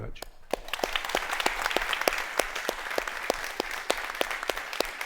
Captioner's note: audience applauding